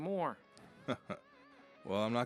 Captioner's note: Dan laughs